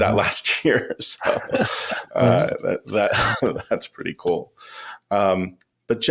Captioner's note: laughs